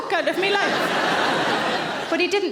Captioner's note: audience laughing